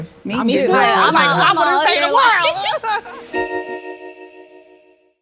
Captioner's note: women chattering